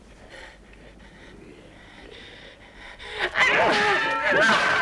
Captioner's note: Hundra panting; swords clanging